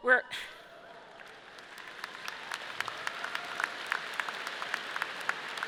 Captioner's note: audience cheering and clapping